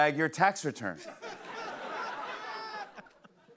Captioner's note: laughter